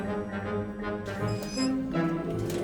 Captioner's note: creaks